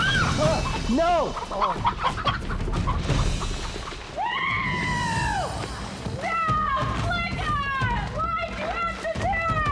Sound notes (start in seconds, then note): 0.1 shouts; 1.3 chicken clucking